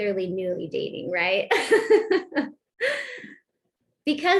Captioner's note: laughter